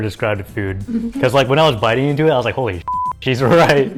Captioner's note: beep